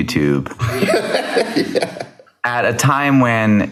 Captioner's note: laughs